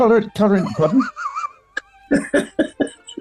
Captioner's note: sniggering; giggling